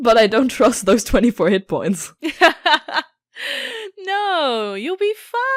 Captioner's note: laughs